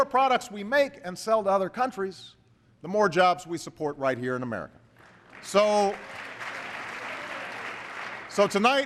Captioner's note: applause